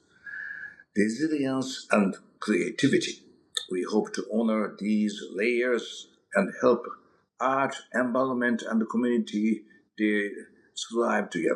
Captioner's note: mouth smack